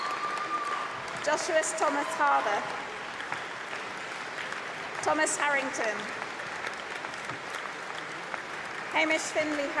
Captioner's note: applause